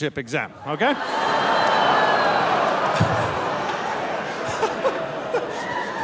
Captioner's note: audience laughing and groaning; laughing